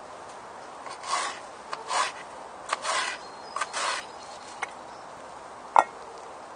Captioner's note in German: Schneidgeräusche auf Holzbrett